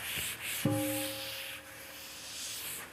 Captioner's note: half bell